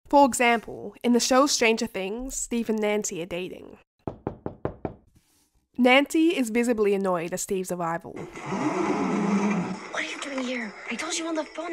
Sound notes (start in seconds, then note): 4.0 sound of knocking at window; 8.2 sound of window opening